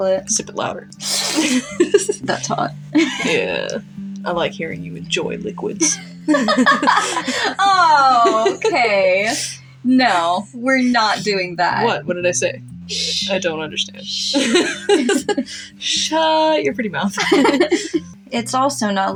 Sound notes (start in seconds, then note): 1.0 sips Loudly; 1.0 laugh; 5.8 chuckle; 5.8 laugh; 14.2 laugh; 17.1 chuckle